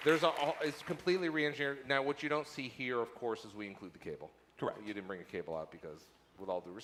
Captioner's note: applause